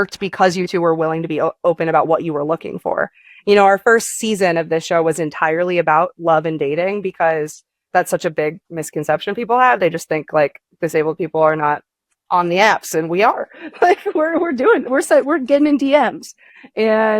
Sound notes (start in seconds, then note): 13.5 chuckles